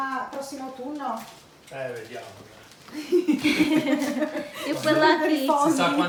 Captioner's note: laughter